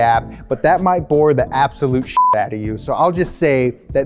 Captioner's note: beep